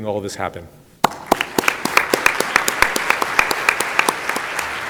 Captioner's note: audience applauding